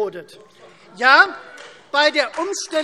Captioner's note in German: Beifall Freie Demokraten